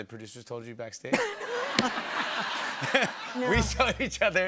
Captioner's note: laughter